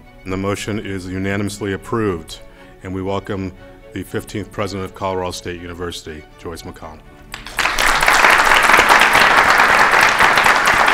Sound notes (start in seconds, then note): 7.3 clapping